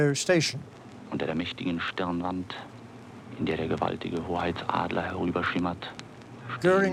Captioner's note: German radio broadcast